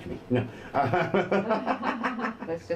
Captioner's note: laughs